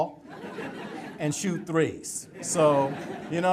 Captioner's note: audience laughter